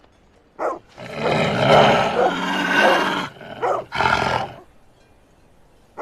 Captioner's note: the growls of and snow leopard